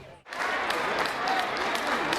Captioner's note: applause